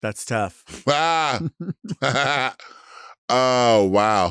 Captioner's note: Latrice chuckling